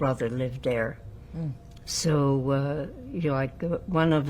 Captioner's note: none